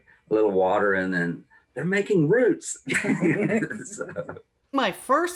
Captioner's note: all Laugh